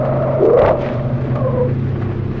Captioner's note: breaks squeal; thud